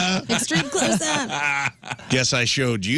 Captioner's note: laughter